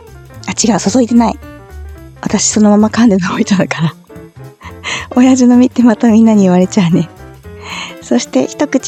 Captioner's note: laughs